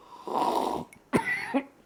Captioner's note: awful slurp noise